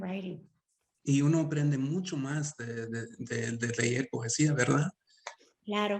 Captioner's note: speaking Spanish; Sandra speaking Spanish